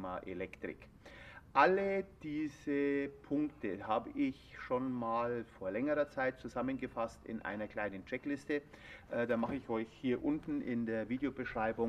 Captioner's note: in German